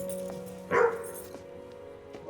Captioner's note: Larry barking